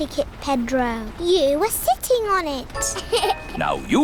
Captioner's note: laughs